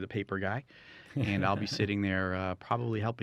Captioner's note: laughing